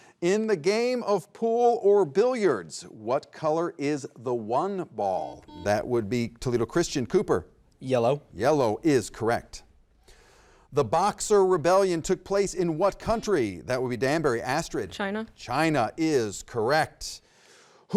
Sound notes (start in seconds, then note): 5.2 button beeping; 13.8 button beeping